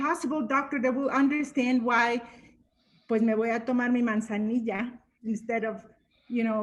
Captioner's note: speaking Spanish